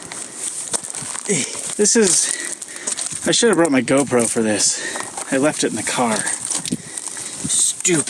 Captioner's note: grunts